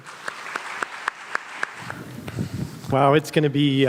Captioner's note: everyone applauds